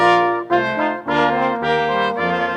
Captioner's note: none